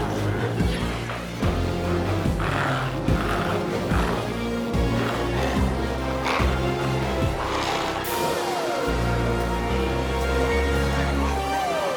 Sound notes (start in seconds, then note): 4.7 glowzies growling continues; 4.7 intense music continues